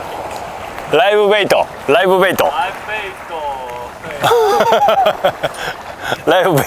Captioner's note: laugh